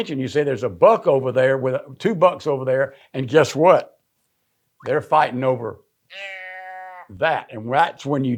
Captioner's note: bleats